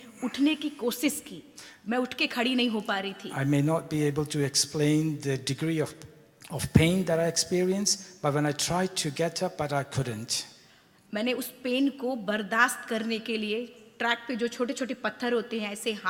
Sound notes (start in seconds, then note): 11.1 speaks foreign language